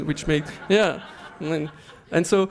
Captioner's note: laughter